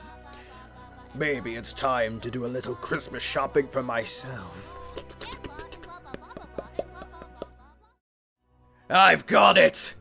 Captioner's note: clicks tongue like a weirdo